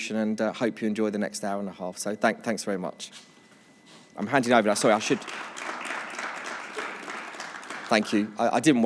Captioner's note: applause